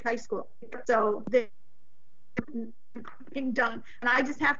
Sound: voice distorted

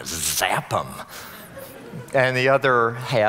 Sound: audience laughing

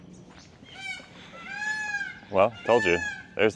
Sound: peacock crowing

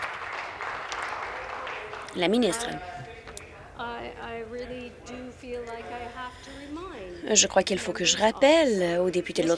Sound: applause

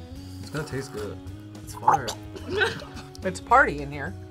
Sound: gags

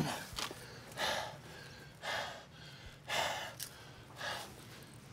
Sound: groans; panting heavily

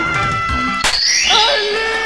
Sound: smack

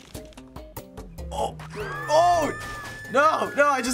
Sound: people scream

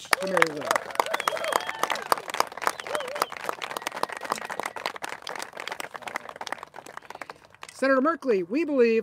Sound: applauses

